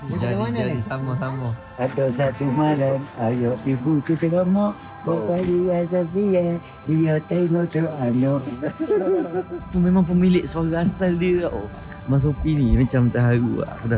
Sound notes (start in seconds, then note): 2.0 laugh; 2.0 speaking Kelantanese dialect